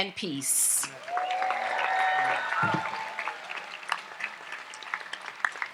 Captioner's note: audience applauds and cheers